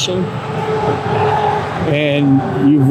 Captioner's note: traffic droning